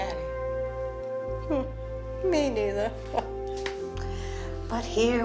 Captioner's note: laughs